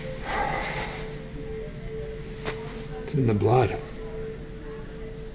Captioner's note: sighs